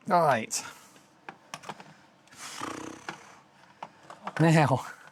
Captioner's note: silence